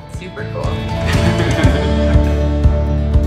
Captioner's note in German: Beide lachen